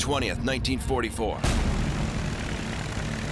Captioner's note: propeller whirring